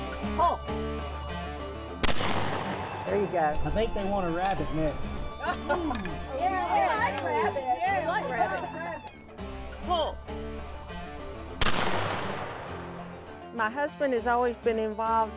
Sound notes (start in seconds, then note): 2.0 gunshot; 5.3 overlapping cheering; 11.5 gunshots